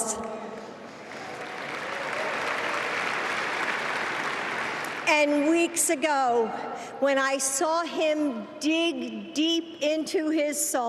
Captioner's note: applause